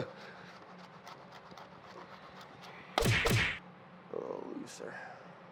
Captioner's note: cheese grates; laughs; punches thud